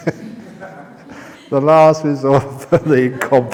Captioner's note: laughter